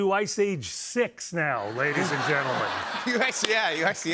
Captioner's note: laughter